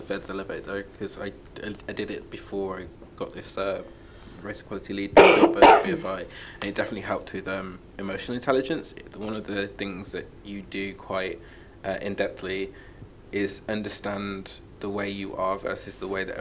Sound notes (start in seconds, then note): 5.2 coughing drowns out speaker